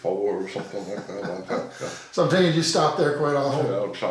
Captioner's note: laughing